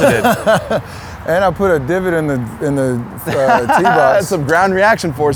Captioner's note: laughs; laughs